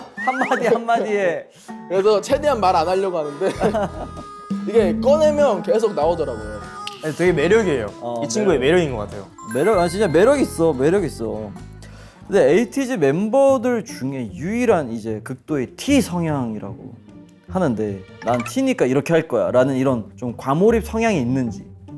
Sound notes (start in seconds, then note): 3.2 laughing